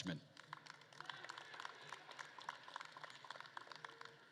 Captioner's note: attendees applauding